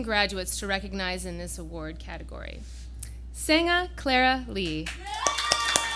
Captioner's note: applause